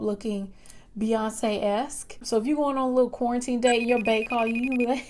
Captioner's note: FaceTime ring